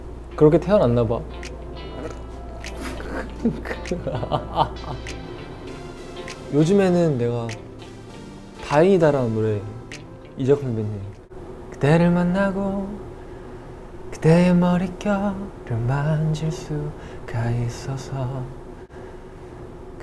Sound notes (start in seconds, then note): 2.6 laughs